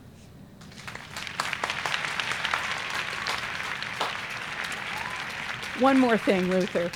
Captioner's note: applause